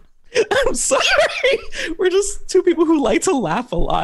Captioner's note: laughter